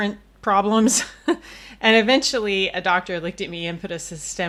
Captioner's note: laughs